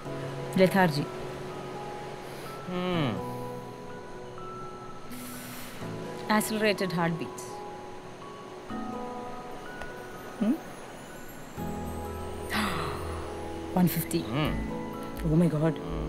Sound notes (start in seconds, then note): 2.2 Jessy grunts